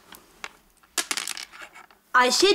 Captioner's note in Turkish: Zar sesi